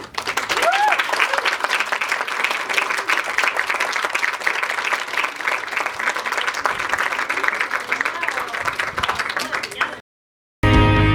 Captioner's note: clapping